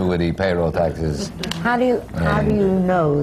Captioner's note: laughter